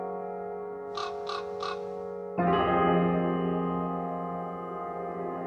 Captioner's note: another raven answers